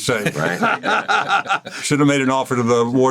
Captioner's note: laughs